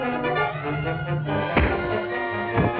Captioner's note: punch thuds; body thuds